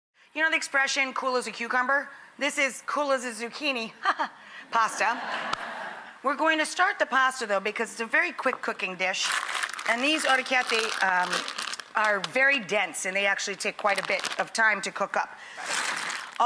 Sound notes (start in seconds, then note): 4.9 audience laughing; 9.1 bag crinkling